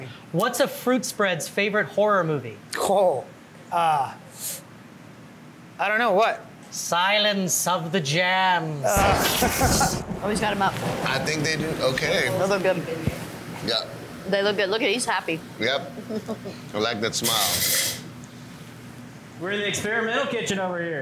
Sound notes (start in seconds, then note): 8.9 thunder cracking; 9.0 chuckling